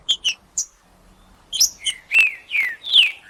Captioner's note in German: trinca ferro cantando